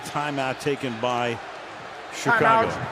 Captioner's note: booing